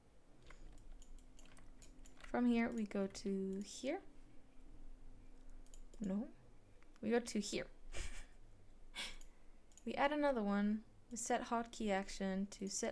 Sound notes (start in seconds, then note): 5.1 snickers